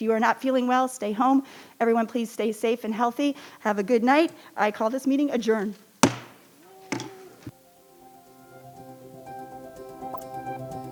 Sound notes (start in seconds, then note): 6.0 hammer bangs; 7.5 gentle music